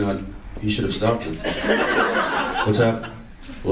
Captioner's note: audience laughs